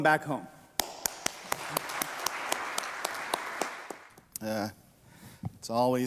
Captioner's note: applause